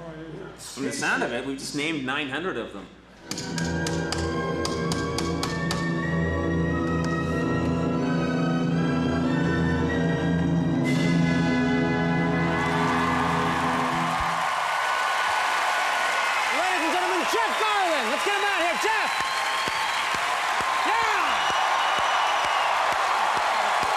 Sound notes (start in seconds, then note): 2.6 dramatic music; 2.6 tapping; 6.5 dramatic music; 10.5 audience cheers and applauds; 19.8 audience cheers and applauds